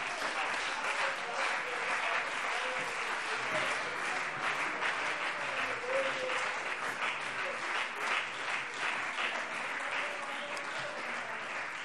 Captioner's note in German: Beifall CDU und BÜNDNIS 90/DIE GRÜNEN